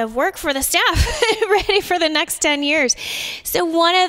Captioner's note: laughter